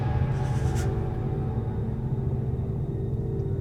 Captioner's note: heavy breathing